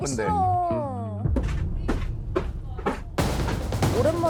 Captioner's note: General’s footsteps